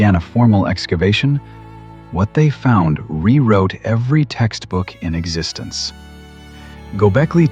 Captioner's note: breath; breath